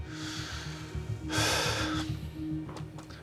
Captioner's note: sighs